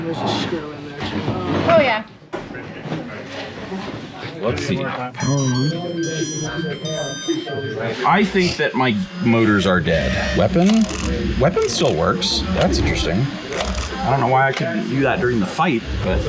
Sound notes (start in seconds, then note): 5.2 device chiming